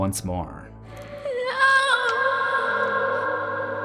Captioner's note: crying